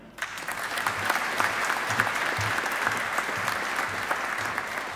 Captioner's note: audience applauding